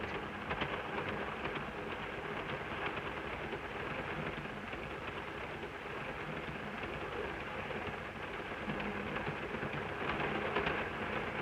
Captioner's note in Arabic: صوت خشخشة القطار